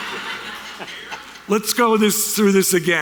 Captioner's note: audience laughter